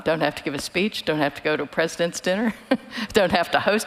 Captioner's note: chuckles